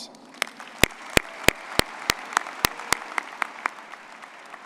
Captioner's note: people applauding